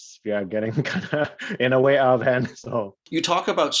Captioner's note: chuckles